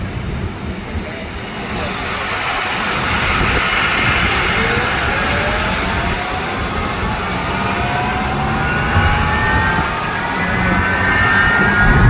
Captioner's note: engine startup noises